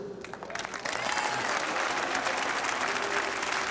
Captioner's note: all applauding